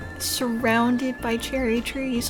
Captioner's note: none